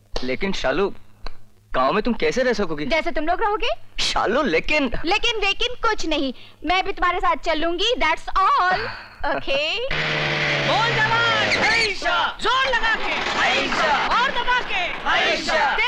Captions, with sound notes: But how will you live in the village? - The way you will. But... - No buts. Even I'll come along. That's all. Okay. Push hard! - (Brakes squeal) Push hard! - (Truck engine starts)